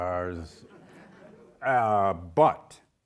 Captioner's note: audience laughing